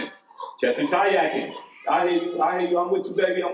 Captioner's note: baby cries